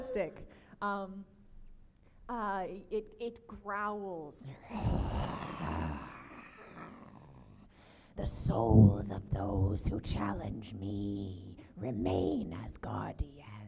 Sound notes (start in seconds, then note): 4.5 growls